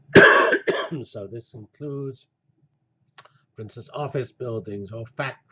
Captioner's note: cough